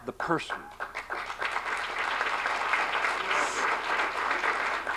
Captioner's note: applause